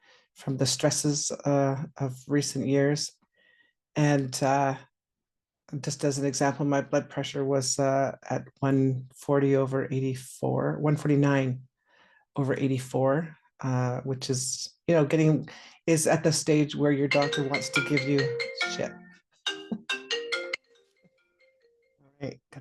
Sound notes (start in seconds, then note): 19.5 phone rings